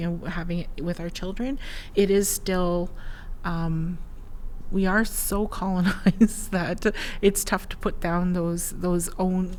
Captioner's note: laughs